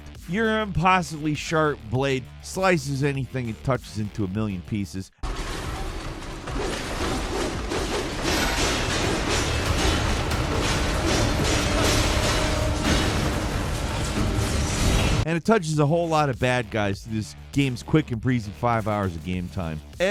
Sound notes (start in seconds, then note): 6.9 blade whooshing